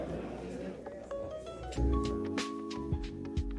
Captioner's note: sounding gavel